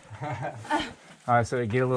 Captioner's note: laughing